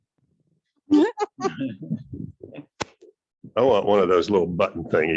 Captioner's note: laughing